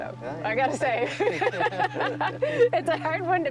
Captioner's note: laughing